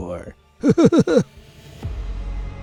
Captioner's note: shudder